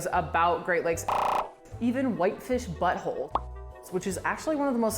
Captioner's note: popping